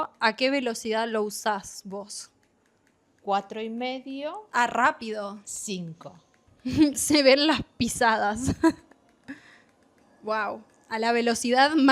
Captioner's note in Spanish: risas